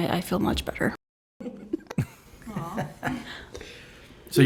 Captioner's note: all chuckle